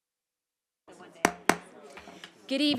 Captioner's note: gavel hitting dais